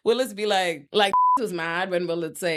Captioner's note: beep